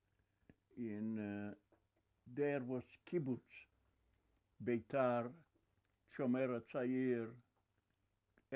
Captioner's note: hebrew